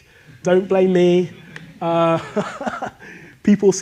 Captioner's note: laughs